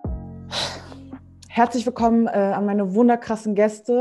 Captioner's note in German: atmet laut aus